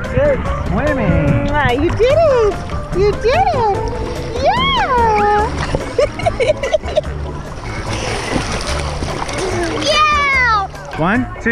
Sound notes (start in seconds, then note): 4.9 laughs